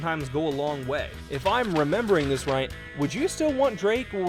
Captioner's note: pages flipping